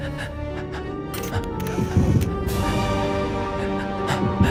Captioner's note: camera shutter sounds